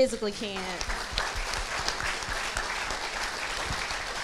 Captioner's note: crowd applauds